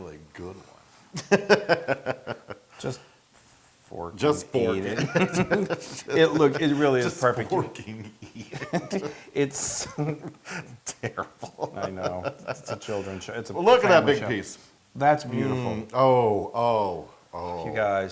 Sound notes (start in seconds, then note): 0.2 laugh; 5.5 laugh; 8.6 laugh